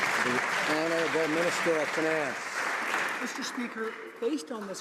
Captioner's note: some Applause